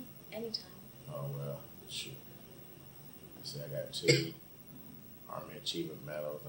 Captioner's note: coughs